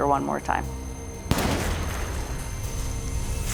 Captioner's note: gun firing; dramatic music